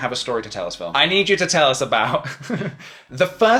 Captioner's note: laughs